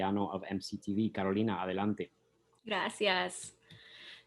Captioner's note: speaks in Spanish